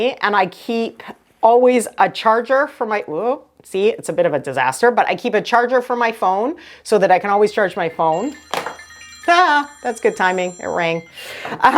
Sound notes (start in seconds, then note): 7.3 phone ringing